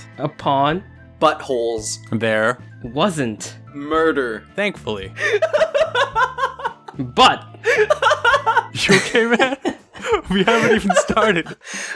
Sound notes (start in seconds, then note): 5.2 dies laughing; 7.6 dies of laughter